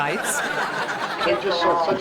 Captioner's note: audience laughs